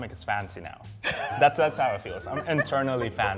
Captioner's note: laughs